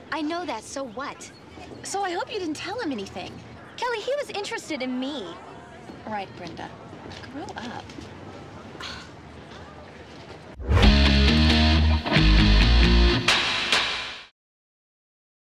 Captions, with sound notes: - I know that. So what? - So I hope you didn't tell him anything. - Kelly, he was interested in me. - Right, Brenda. Grow up. (Brenda scoffs) (percussive electronic music)